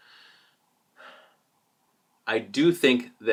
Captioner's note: sigh